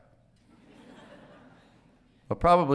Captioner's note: audience laughing